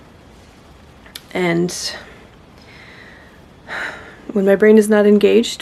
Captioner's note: deep breath, exhale